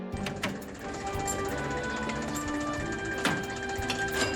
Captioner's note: cheerful music; car engine revving